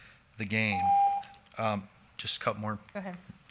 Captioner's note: timer beeps